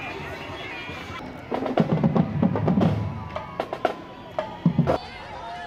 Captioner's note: people chattering; upbeat music; rhythmic music